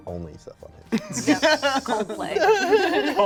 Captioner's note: laughs